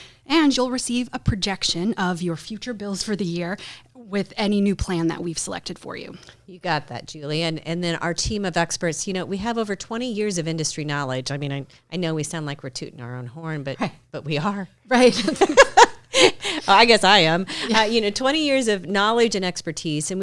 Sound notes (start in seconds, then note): 15.1 laughs